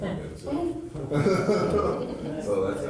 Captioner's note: group laughs